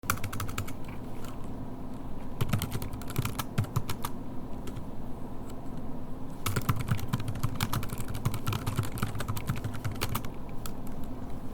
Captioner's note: typing sounds